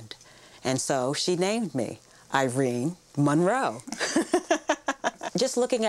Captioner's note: laughs